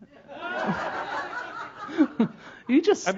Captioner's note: laughter